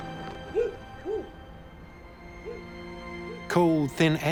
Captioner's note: dog barking